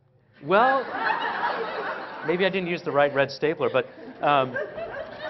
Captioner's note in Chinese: Laughter; 笑聲